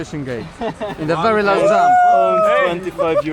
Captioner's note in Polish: śmiech